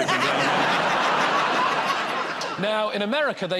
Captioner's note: laughter